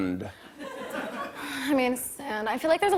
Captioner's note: sighs